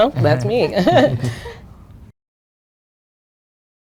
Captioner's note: laughing